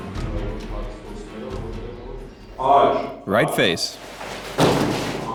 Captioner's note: voiceover